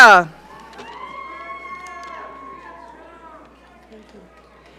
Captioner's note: audience cheering